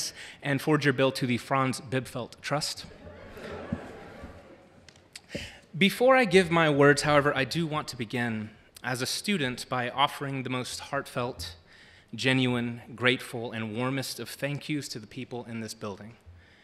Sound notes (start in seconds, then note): 2.8 audience laughing